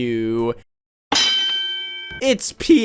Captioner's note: boxing ring ding again